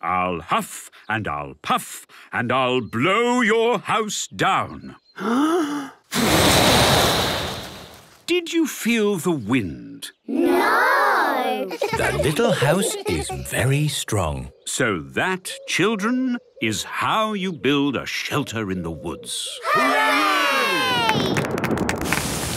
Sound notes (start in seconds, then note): 5.2 inhaling deeply; 6.1 blowing; 11.6 laughter; 21.3 thunder